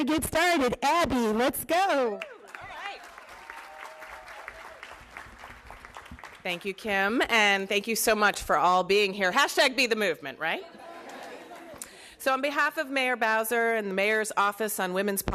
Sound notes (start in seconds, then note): 5.3 applause